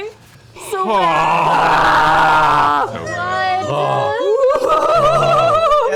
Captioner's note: noises of awe